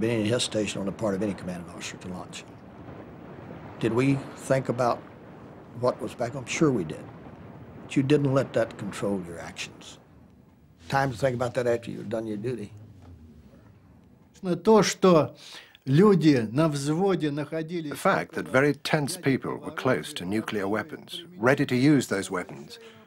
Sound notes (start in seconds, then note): 14.4 speaking Russian